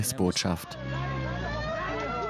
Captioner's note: sirens ringing; speaking in a foreign language